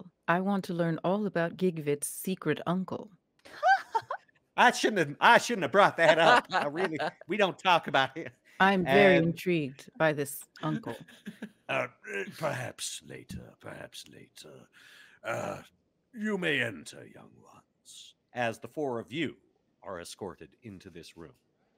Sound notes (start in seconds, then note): 3.5 laughing